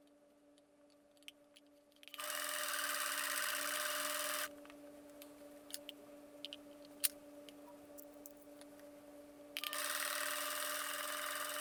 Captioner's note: sewing Sound